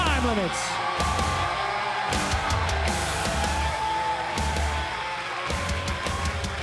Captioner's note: crowd cheering; rock music